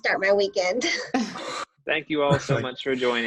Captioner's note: laughter